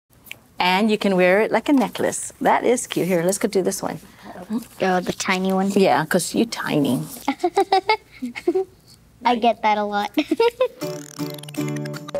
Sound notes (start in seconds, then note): 7.2 laughing; 10.0 laughs